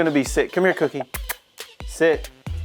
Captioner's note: kiss sounds